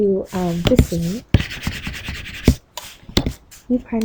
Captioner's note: highlighter scratching